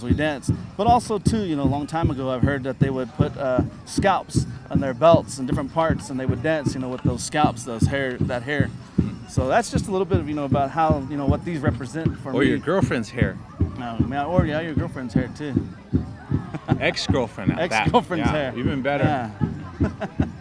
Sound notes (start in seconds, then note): 16.4 laughing